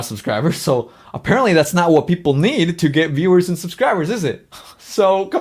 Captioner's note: laughs